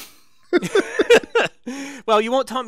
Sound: laugh

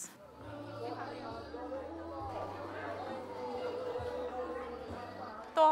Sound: sounds of people shopping

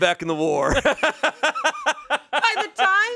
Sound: everyone laughs

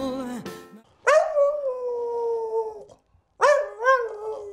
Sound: dog howling

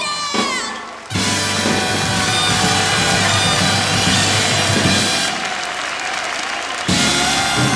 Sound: applause

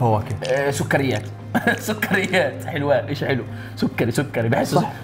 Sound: chuckles

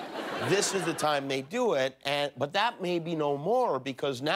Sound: laughter

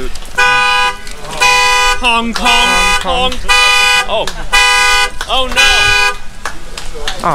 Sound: loud car alarm goes off

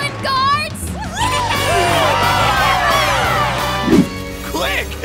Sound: cheering

